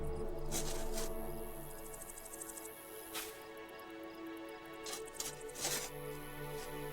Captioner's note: dramatic music; digging; dramatic music